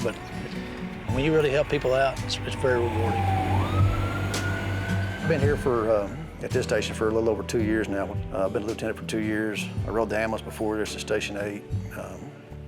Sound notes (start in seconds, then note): 5.8 siren blaring